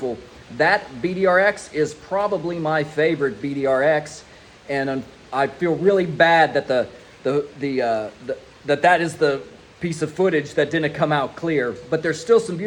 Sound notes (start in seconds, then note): none